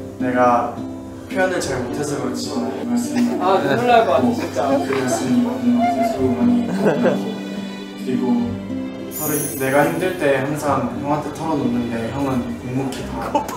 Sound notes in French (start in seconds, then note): 5.9 Pleure dès le début